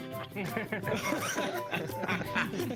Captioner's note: laughing